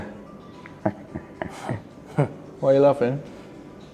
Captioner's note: chuckles